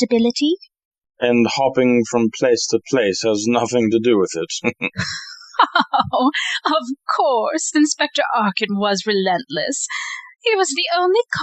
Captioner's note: she laughs